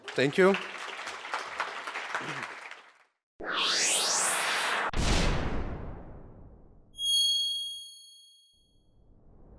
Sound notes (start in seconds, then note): 0.0 audience applause; 4.8 loud slam; 7.0 high-pitched ring